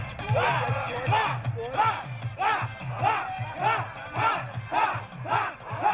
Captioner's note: team members yelling